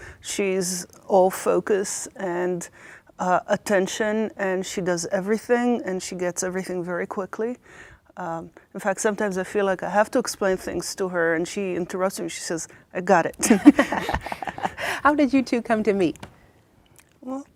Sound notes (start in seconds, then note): 13.4 laughing